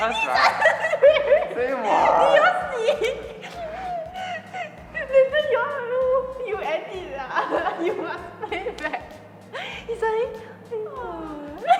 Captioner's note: laughs